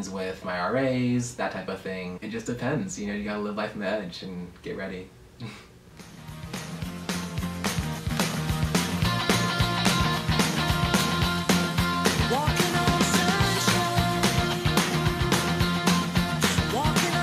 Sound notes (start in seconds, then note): 5.4 chuckle